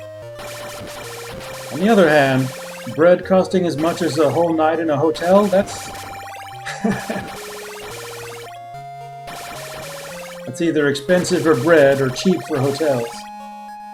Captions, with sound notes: On the other hand, bread costing as much as a whole night in a hotel? That's... [chuckles] That's either expensive for bread, or cheap for hotels.